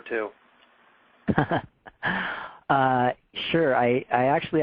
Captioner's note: laughter